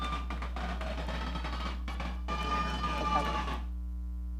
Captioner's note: audience cheering